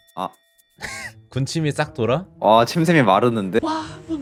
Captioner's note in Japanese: ひひ